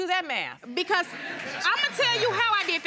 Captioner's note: audience chuckling; audience applauding